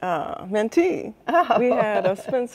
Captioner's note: chuckling